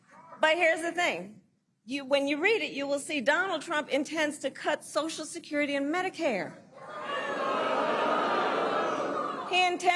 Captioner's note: laughter